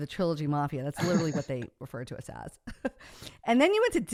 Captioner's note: laughs